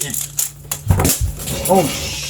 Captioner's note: twisty puzzle pain sounds